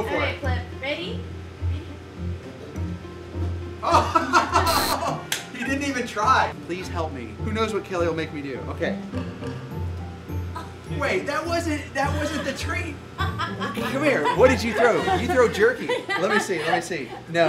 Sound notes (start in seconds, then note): 3.8 laughs; 4.6 buzzer buzzes